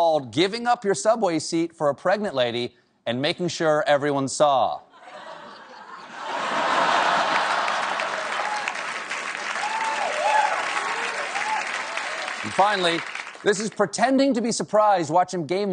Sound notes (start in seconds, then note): 4.5 applause; 5.0 laughter